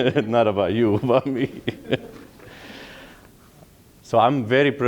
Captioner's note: laughing